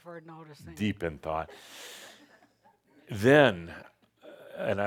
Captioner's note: a few chuckles